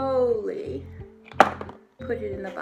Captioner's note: thud